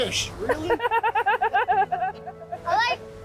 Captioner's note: laughs